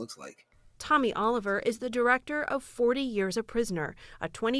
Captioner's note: voice-over